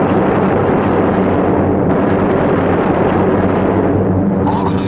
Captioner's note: gunfire sounding